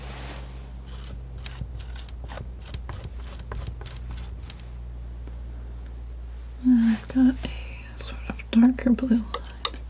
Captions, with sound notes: (scratching) (scratching) (scratching) I've got a sort of darker blue light.